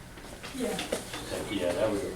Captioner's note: voiceover